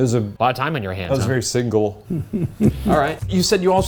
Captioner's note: laughing